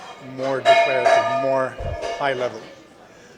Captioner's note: pot/something metal falling on the floor